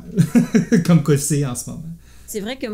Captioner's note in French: rires